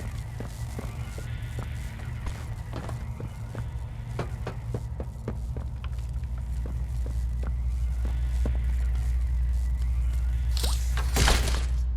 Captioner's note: footsteps